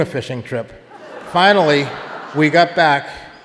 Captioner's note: audience laughing